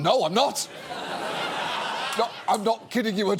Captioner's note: studio audience laughs